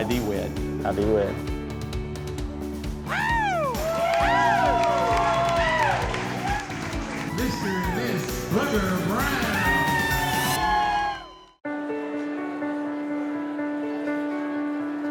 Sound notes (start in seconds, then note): 3.0 cheering, clapping; 9.7 cheering